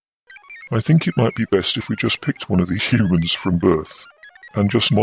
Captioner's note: laughs